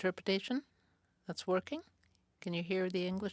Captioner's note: speaking French